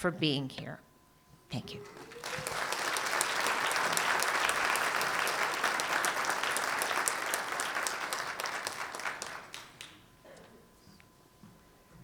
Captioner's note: applause